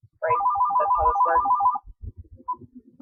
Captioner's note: phone obnoxiously rings!!